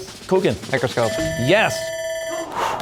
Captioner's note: bell ringing; exhales, cheers and applause